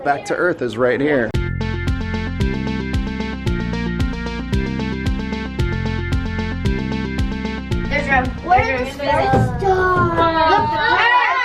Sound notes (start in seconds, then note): 1.6 lively music; 8.0 chattering